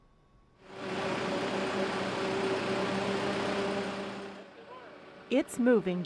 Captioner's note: sound of truck moving sculpture